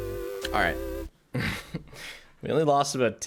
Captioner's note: laughs